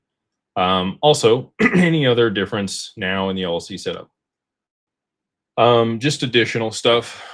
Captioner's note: clears throat